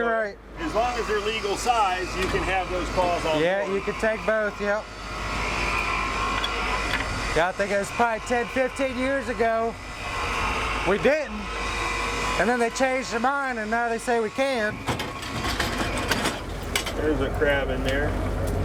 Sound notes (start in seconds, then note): 5.6 winch cranking